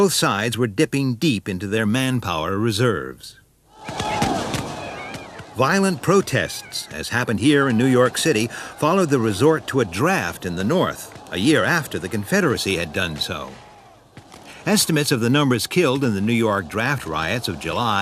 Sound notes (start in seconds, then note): 3.9 guns bang; 4.6 shouting